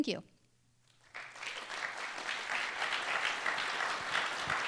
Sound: applause

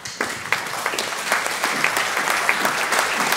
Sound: applause

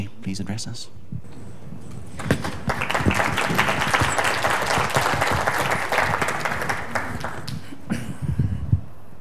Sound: clapping

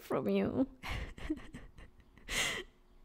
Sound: laughter

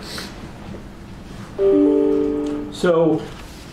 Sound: chime

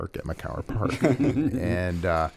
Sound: laughter

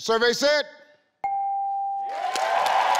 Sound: tone dinging; audience clapping and cheering

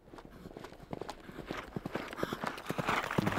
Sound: galloping

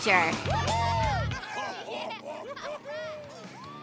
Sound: laughing

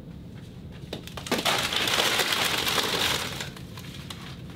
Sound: crash and crumbling

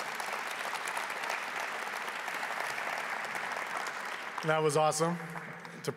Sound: applause

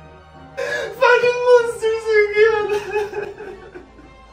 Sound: sobbing; sighs

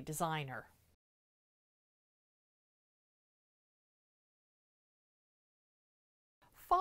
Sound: no Sound Present

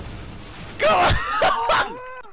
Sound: seal laugh again

